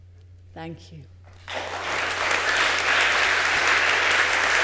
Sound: applause

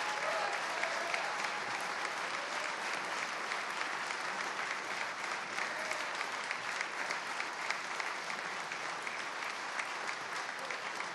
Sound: cheers and applause

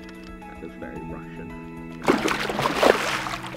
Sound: none

